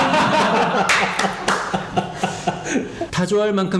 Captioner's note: laughing